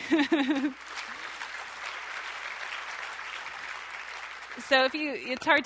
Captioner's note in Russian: смех; аплодисменты